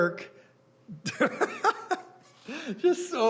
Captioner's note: laughing; chuckling